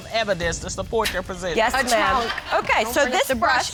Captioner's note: scoffs